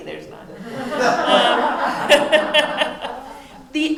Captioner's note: laughter